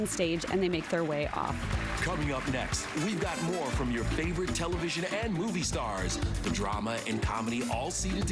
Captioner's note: applause